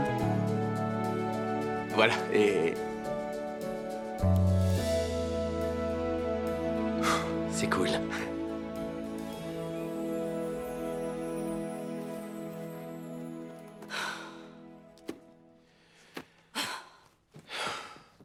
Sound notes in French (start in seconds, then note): 13.7 Becca soupire